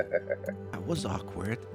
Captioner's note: laughing